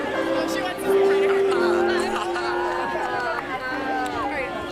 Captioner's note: laughing